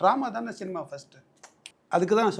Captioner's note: finger snaps